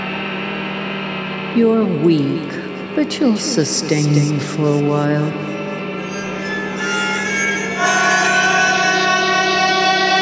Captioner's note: door creaks open; Jeff screams